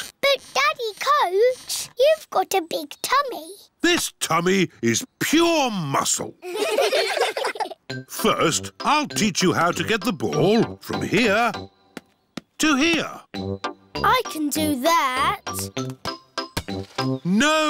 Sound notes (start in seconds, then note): 6.4 all giggling